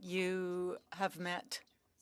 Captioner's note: speaking French